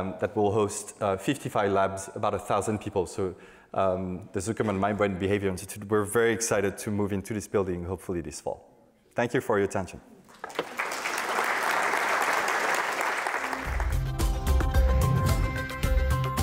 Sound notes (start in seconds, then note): 10.3 audience applauding; 13.4 upbeat music